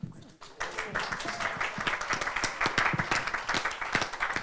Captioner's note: audience applauding